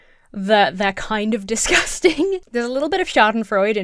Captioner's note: laughs